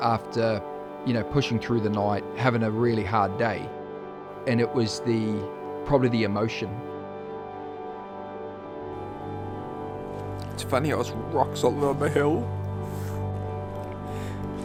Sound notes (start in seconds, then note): 12.8 sniffling